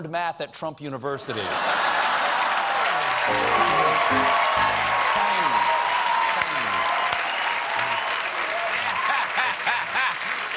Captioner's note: cheers and applause